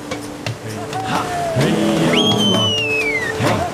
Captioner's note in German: Jubellaute, Pfiffe